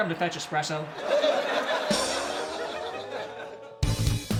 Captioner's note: laugh track